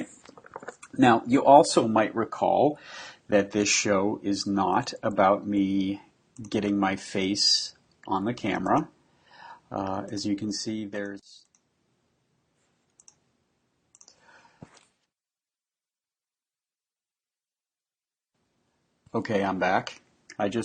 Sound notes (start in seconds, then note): 12.0 silence